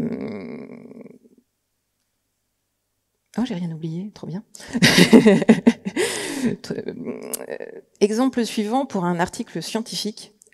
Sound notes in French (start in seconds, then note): 4.7 Rires